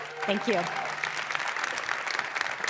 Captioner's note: applause